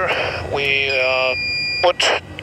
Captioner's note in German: Schrilles Pfeifen